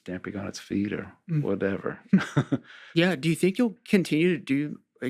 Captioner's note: chuckles